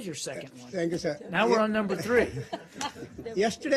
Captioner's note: laughter